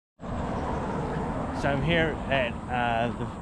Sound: car passing

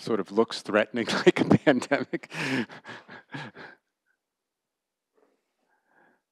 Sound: laughter

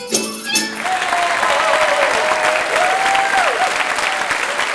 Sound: applause and cheers

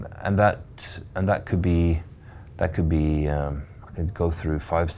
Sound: stuttering

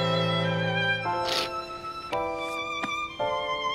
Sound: sniffles

